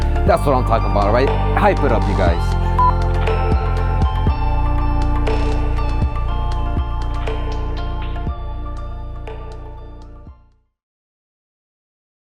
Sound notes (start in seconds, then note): 2.7 beep; 3.8 upbeat music